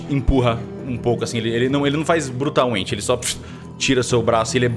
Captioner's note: puff